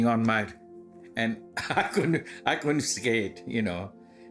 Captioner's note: chuckling